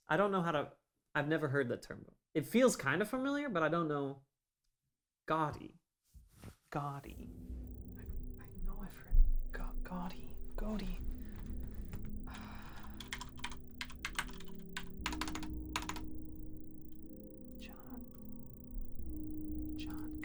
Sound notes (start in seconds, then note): 13.4 typing